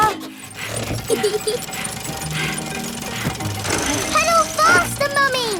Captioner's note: mummy pig panting; peppa laughing